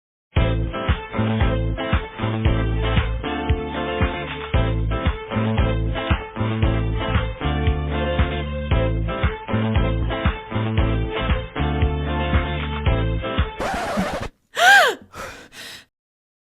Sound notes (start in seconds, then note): 14.5 gasp!